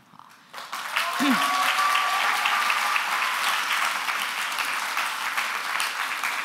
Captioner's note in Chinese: 掌聲歡呼